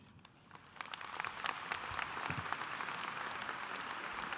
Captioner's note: audience applauding